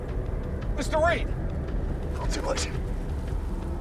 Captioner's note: wind howling